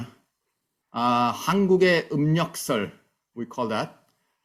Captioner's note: speaks Korean